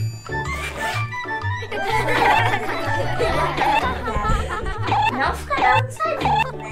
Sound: laughs

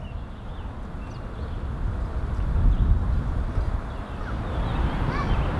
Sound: wind blowing

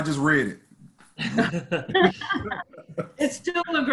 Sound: laughter

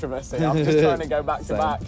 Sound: laughing

